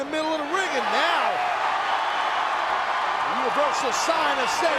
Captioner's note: audience cheers